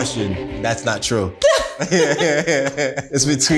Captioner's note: laughs